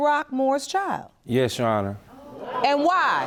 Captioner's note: audience murmuring